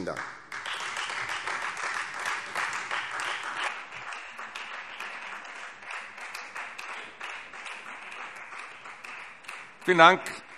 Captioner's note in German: Beifall Freie Demokraten